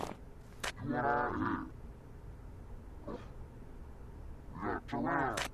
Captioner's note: big bad alien sound; big bad alien searching sound